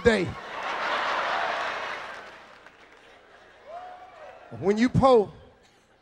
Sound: audience laughing

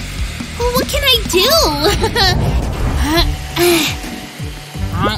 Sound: groans

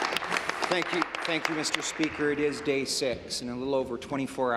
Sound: applause

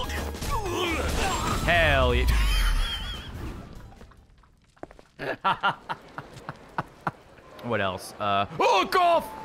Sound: laughs

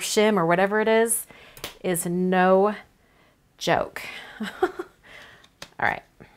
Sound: laughs

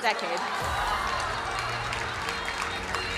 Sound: crowd cheering and applauding

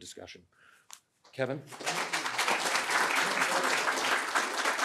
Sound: crowd applauds

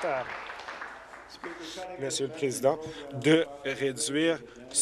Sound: applause

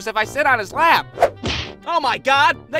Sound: whhhooossh - Smack

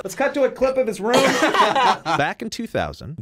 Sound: both laugh

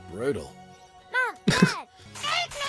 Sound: laughter

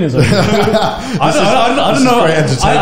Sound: laughs

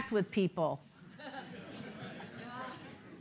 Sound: laughter

